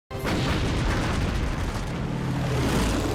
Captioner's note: cannons firing